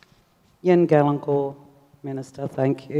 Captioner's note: speaks native language